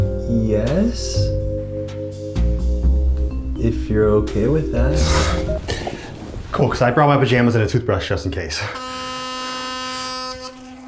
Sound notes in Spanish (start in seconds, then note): 5.1 suspira de alivio; 8.6 zumbido